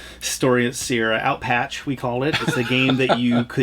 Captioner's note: laughs